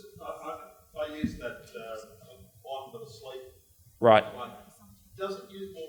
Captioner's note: audience member murmurs